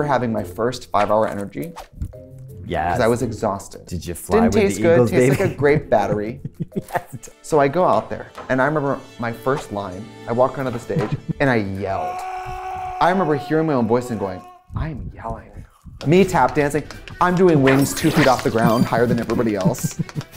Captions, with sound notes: And I remember having my first 5-hour Energy. -Yes. -'Cause I was exhausted. -Did you fly with the eagles, baby? -Didn't taste good. -Tasted like a grape battery. -Yes. So I go out there, and I remember my first line. -I walk onto the stage, and I yelled. -[yelling in distance] I remember hearing my own voice and going, I'm yelling. Me tap dancing. I'm doing wings 2 feet off the ground higher than everybody else.